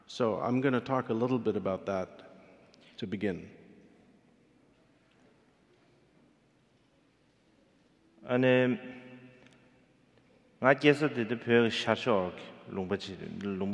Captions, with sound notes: So I'm gonna talk a little bit about that to begin. (speaking in foreign language)